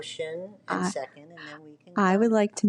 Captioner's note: talks quietly